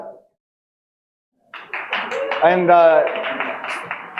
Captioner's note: audience applauding